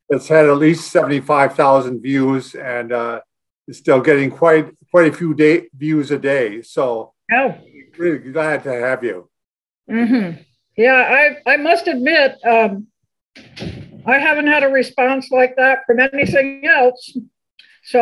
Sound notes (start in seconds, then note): none